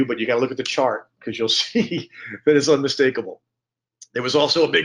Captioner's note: chuckling